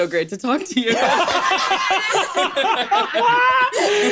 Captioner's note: laughs